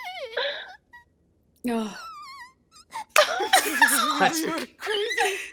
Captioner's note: whimpers softly